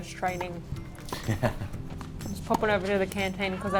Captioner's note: laughing